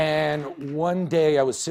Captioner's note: cheers and applause